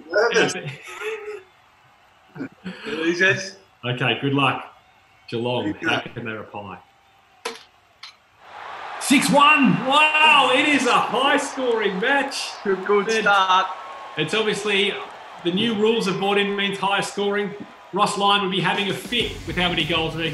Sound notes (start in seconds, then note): 0.2 laughing; 7.7 cheering